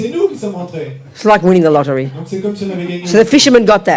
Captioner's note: speaking in French